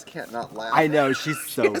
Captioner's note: Trixie laughs